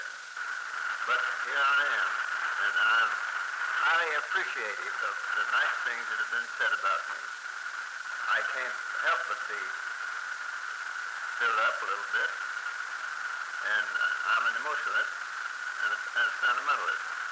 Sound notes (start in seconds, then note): none